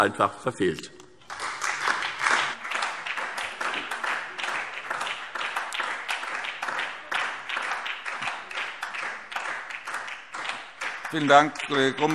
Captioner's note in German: Beifall SPD und DIE LINKE